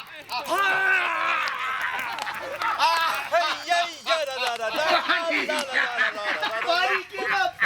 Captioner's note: laughter